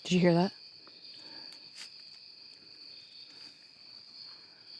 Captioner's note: insects chirping